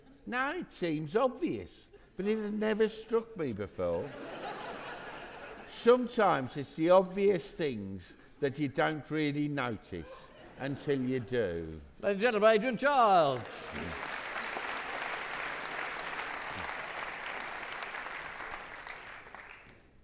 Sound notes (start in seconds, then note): 4.0 audience laughing; 13.1 audience clapping